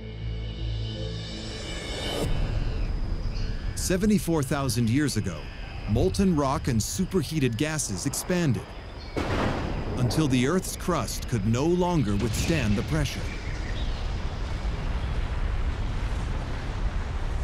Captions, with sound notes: [birds shrieking] Seventy-four thousand years ago, molten rock and super-heated gases expanded, [thunder] until the earth's crust could no longer withstand the pressure... [deep rumble] [birds singing]